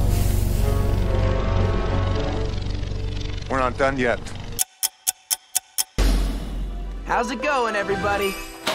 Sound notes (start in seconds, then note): 4.5 ticking